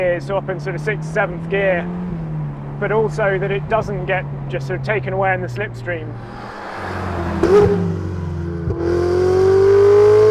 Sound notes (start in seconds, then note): 5.4 car engine revving